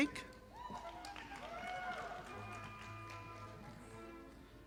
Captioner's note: audience applauding